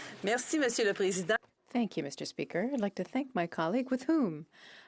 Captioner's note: speaking French